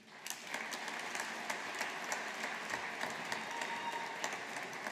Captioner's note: audience applauding